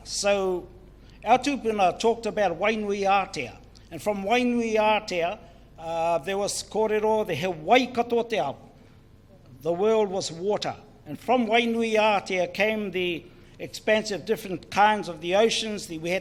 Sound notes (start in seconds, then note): 0.5 foreign Language; 11.7 foreign Language